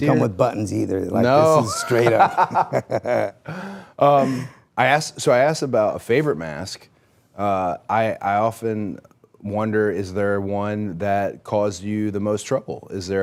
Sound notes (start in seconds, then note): 1.6 Rey laughing